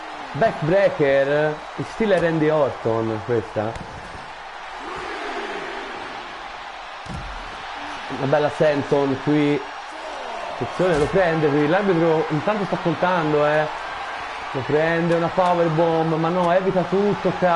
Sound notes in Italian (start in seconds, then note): 3.3 Applauso